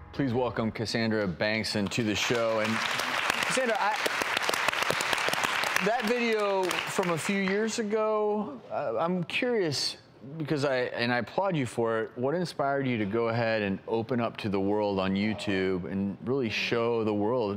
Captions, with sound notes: Please welcome, Cassandra Bankson to the show. (audience applause) And Cassandra, I... That video from a few years ago, I'm curious, and I applaud you for it. What inspired you to go ahead and open up to the world on YouTube and really show the world